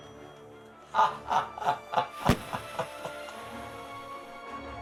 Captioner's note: laughing; dramatic music